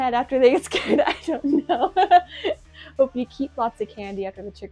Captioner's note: laughs